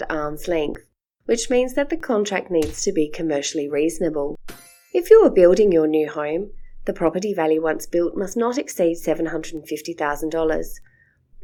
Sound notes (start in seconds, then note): 3.9 stamp sound; 4.5 chime sounds